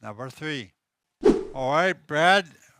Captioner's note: wooshing sound as scene transitions